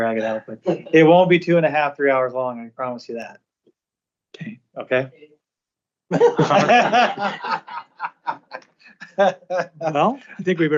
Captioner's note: laughter